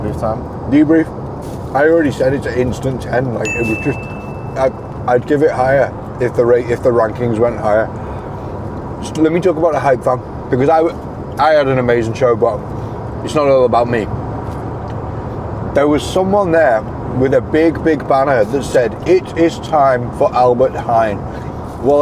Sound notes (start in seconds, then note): 3.4 bell ding